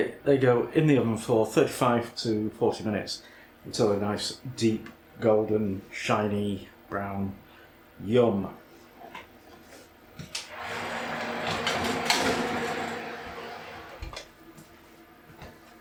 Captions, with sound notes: they go in the oven for 35 to 40 minutes until they’re a nice deep golden shiny brown yum. [ OVEN ROAR AND GENERAL CLUNKIN ]